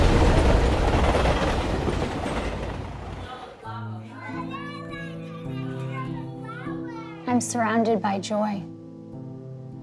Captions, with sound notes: (baby talk) I'm surrounded by joy